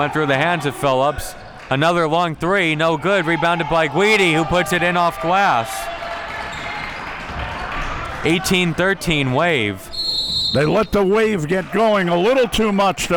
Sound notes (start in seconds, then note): 9.9 whistle blowing